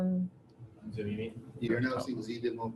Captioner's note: audience member speaking from distance